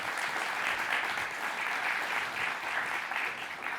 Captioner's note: applause